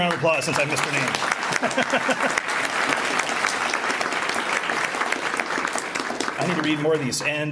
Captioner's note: applause